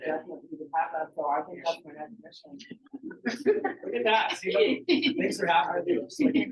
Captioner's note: laughing